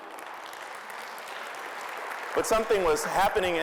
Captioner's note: applause